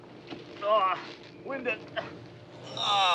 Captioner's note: groans